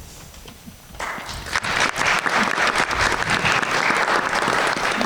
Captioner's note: everyone applauds